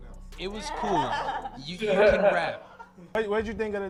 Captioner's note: laughing